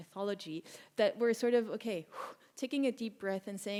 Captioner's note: exhales